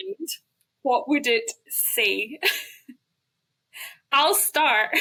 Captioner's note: laughs